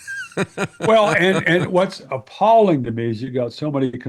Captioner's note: laughing